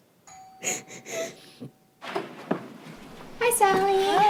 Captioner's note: doorbell rings